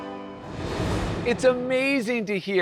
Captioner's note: bright music; graphics whooshing